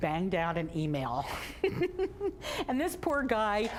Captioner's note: laughing